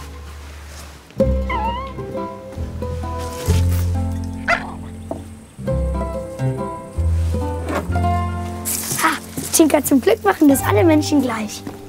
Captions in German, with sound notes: (Winseln) (Kläffen) Ha, Tinka, zum Glück machen das alle Menschen gleich.